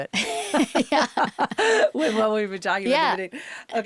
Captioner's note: interviewer and Zoe laugh